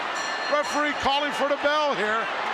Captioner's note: bell rings